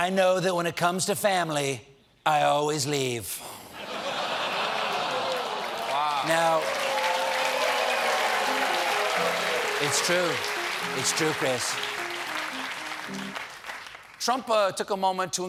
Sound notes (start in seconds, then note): 3.7 laughter; 7.1 applause